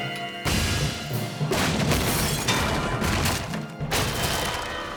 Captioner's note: crash! clatter!; shatter! crash! crash!